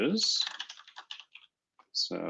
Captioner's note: typing